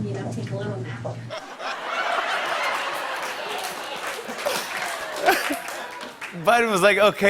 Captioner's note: laughter and applause